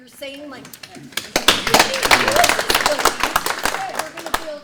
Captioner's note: audience clapping